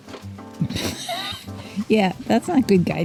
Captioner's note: chuckles